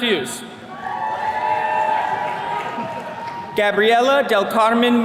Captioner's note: attendees cheering